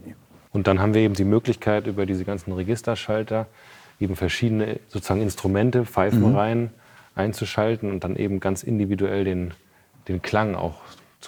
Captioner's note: German